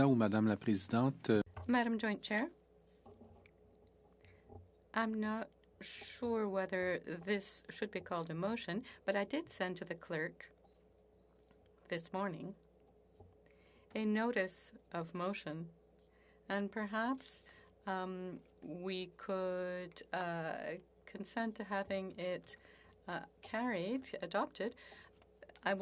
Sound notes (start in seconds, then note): 6.1 speaking French